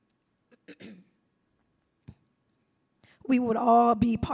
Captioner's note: clears throat